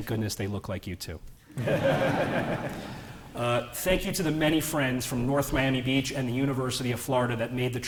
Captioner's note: laughter